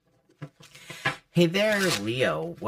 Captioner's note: cards shuffling; deck shuffling